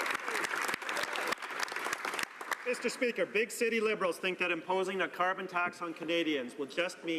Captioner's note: some Applause